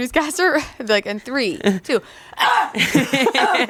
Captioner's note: yells; laughs